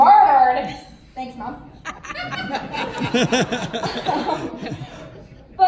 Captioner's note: laughter